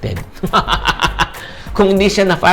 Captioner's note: laughs